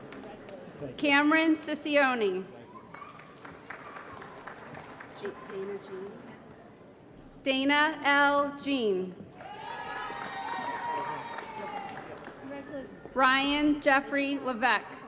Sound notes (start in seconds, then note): 2.8 applause; 9.4 applause & Cheering